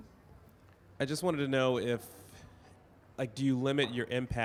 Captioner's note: voiceover